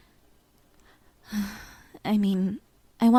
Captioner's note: sighs